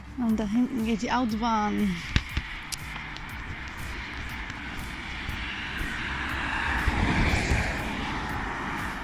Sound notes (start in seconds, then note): 6.4 traffic